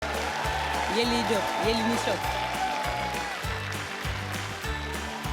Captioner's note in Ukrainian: оплески